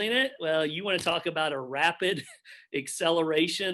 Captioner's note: chuckles